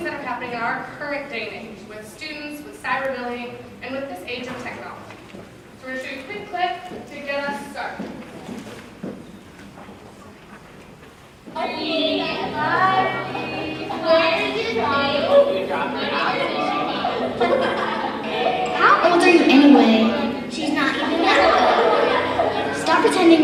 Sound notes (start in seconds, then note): 11.5 children talk and laugh